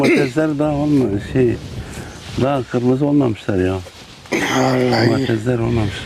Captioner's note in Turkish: boğazını temizler